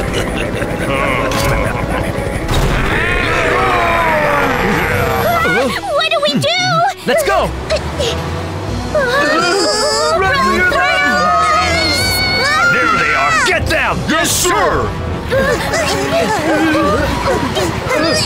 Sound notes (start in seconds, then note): 2.3 shouts; 2.7 Tayo shrieks; 8.9 all shriek; 15.2 all groan nervously